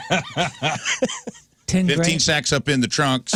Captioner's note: laughing